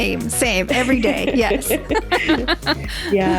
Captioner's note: laughs